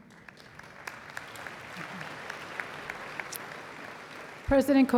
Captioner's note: applause